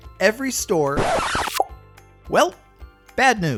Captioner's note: digital whooshing